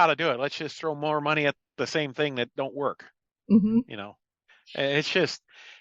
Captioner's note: sarcasm